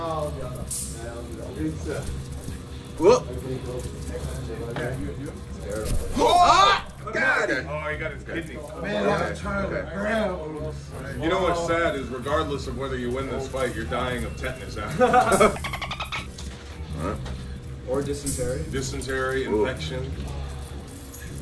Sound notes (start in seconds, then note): 14.9 laugh